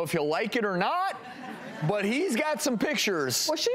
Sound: audience laughs

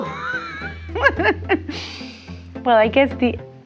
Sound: laughs

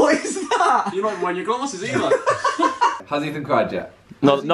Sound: laughing

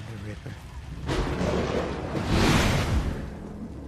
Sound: THUNDER CLAPPlNG

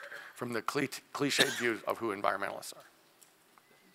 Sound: cough

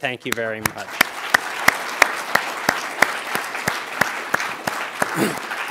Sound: applause

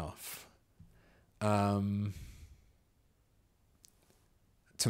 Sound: silence

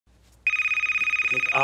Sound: phone rings

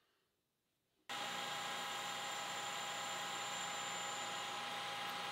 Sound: machine whirs

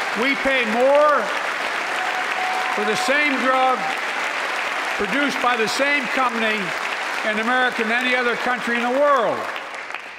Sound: applause

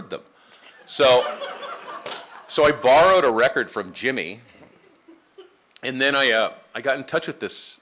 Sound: laughing

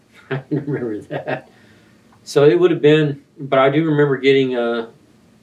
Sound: laughs

